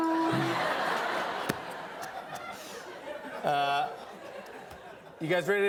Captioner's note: laughter